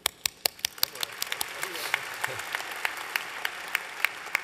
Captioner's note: applause